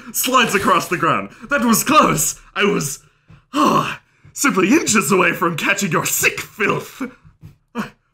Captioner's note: huff